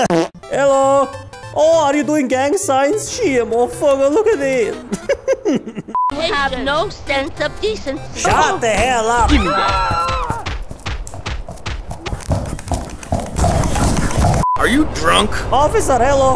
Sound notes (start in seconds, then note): 4.8 laughs again; 12.0 more S T O M P